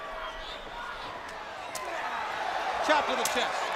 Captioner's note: crowd cheering